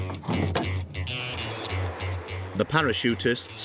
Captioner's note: engine whirring; upbeat music